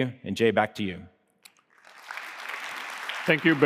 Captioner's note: applause